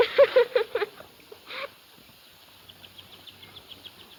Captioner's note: laughing